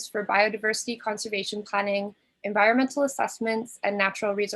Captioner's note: none